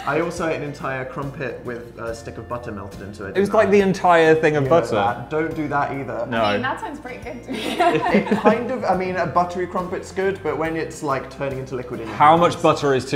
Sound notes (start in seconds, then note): 7.5 laughs